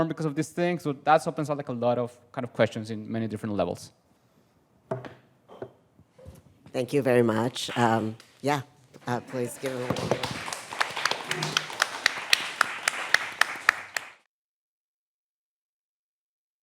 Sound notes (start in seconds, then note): 9.0 audience applauding